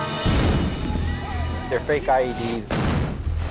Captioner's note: explosions and screaming